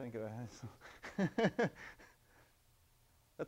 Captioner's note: laughing